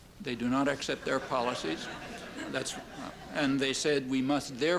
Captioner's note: laughter